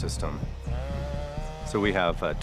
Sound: zumbido de motosierra

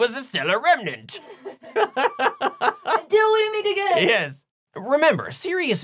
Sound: laughing

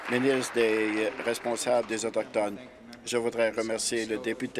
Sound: applause

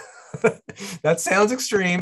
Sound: laughing

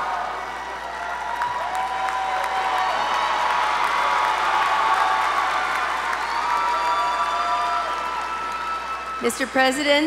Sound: applause

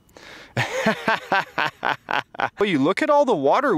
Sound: laughs

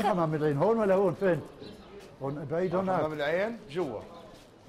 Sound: Arabic

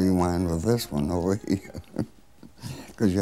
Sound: laughs

